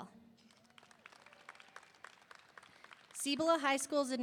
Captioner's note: audience applauding; audience cheering